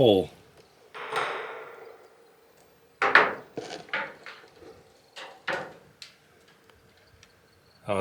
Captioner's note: continuous banging and knocking